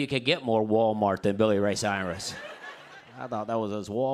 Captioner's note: laughter